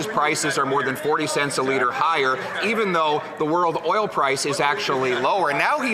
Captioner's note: some Applause